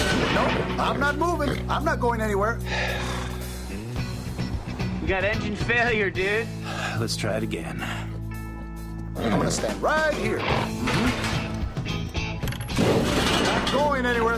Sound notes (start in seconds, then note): 2.6 sighs; 10.2 snorts